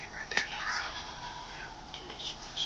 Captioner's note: whispering